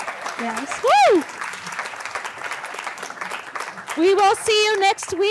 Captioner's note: applause and cheering